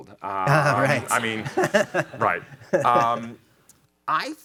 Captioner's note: chuckling